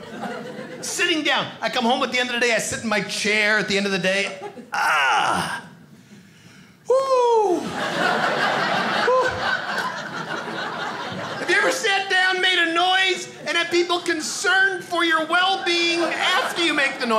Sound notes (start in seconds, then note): 4.7 groans; 7.6 audience laughing